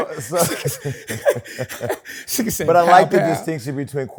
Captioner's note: laughs